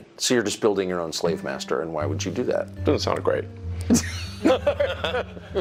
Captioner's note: laughter